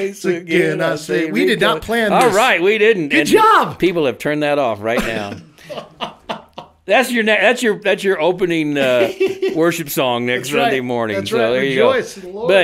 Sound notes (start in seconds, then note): 4.9 co-hosts laugh; 8.8 co-hosts giggle